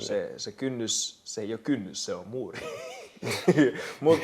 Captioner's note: laughs